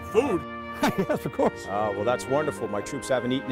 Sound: laughs

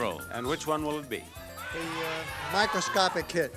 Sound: audience yelling

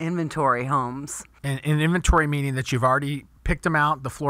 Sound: voiceover

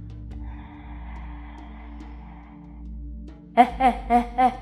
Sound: inhales

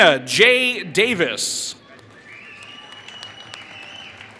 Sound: applause

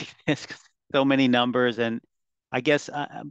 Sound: chuckles

